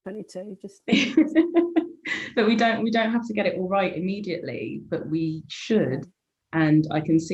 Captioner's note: laughing